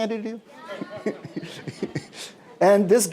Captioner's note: laughs